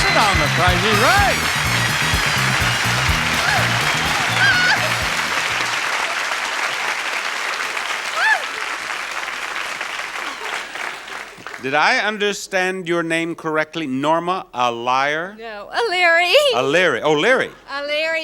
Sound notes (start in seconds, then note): 4.4 exclaims